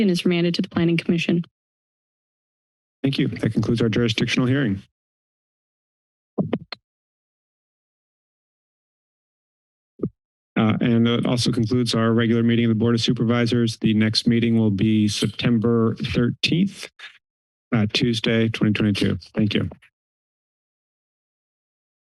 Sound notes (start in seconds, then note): 6.4 mic thump; 7.1 silence